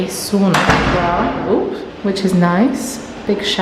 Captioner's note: door banging